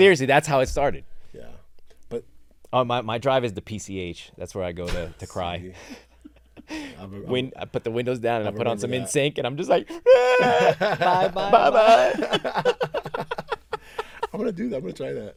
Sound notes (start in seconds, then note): 10.0 cries